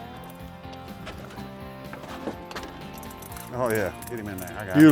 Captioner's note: water splashes